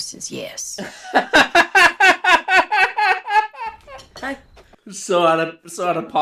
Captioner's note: bellowing laughter